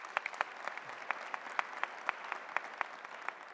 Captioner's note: applause